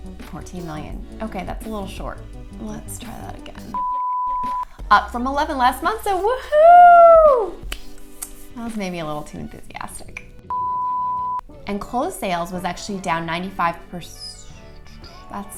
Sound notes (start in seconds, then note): 3.7 beep; 6.6 cheering; 10.5 beep